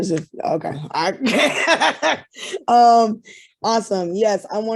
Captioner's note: laughing